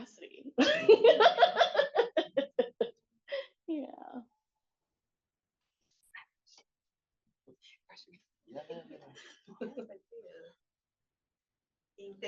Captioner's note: laughs